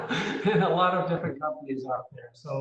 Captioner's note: laughs